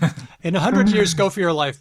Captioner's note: chuckles